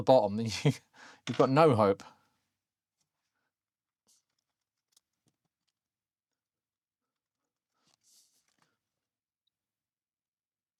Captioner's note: blank Audio